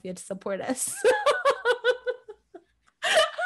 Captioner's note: laughs